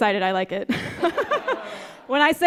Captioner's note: audience laughing